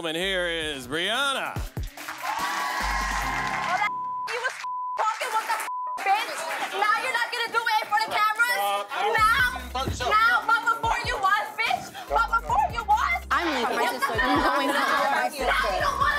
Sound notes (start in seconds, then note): 1.7 clapping and cheering; 3.8 beep